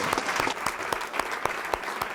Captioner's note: applause